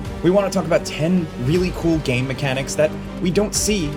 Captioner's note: none